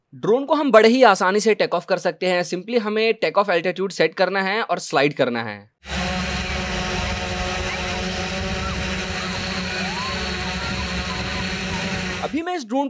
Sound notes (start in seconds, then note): 5.8 drone sound